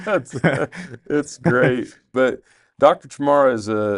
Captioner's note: chuckles